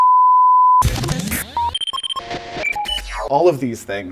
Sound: techno computer sounds

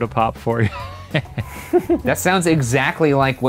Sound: laughs

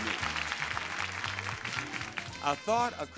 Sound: audience applauding

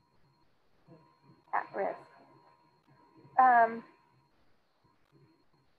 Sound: student speaking faintly

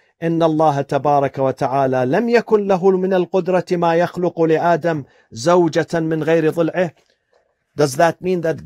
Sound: Arabic

